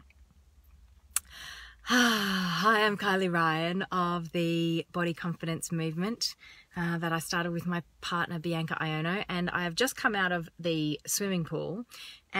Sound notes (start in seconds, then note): 1.2 exhales